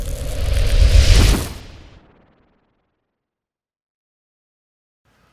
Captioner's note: blowing wind; thundering effect